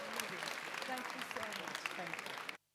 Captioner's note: applause